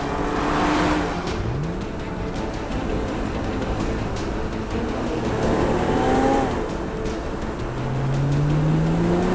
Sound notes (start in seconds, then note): 1.0 car engine revving